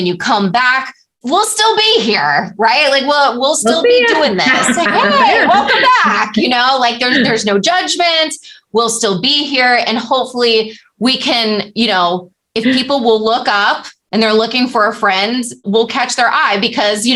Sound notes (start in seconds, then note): 6.8 laughter